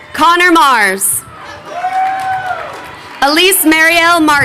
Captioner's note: crowd cheering